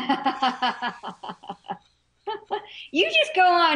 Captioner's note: both laugh